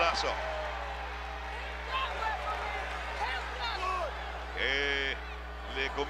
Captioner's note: applause